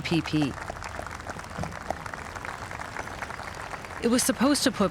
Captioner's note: crowd applauding